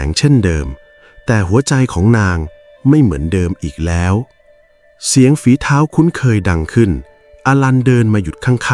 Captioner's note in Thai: เสียงสูดหายใจ